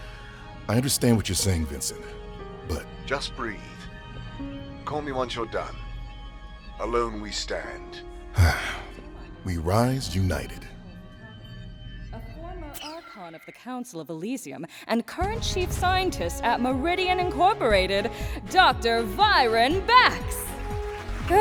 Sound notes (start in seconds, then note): 8.3 Bax sighs